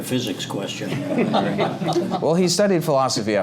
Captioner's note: laugh